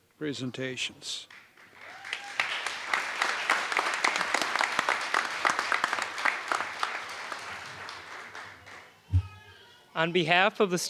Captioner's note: applause